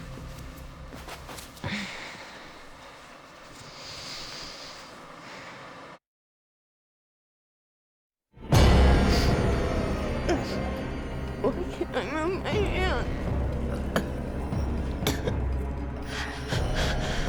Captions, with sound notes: (Claire sighs) (tense music) Why can't I move my hand? (Claire gasping)